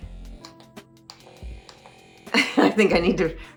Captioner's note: tool whirring; laughs